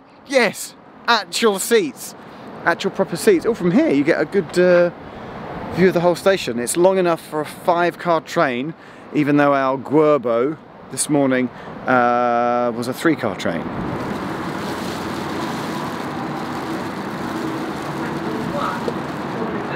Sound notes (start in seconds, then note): 13.8 plastic bag rustling